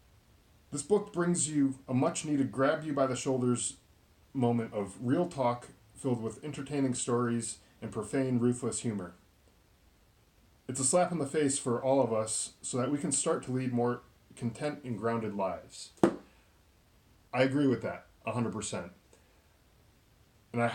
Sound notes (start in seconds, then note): 16.0 book slams shut